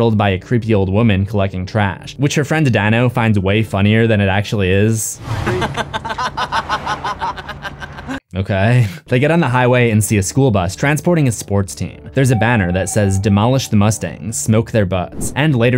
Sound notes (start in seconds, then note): 5.4 laughter